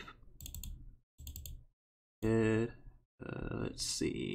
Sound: mouse clicking

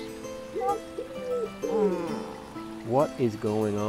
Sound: groan

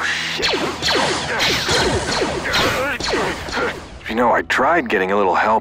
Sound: lasers firing

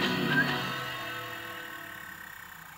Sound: bell ringing; projector sputtering

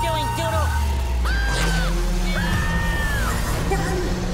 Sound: screaming

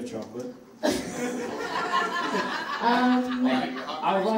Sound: audience laughs

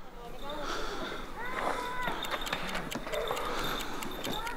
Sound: heaving breaths

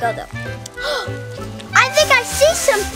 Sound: assistant gasps

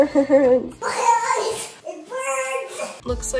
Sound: childish Voice

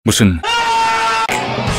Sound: door rage scream

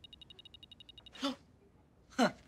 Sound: ghost device clicking; gasps, chuckles

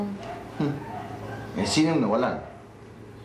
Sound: scoffs

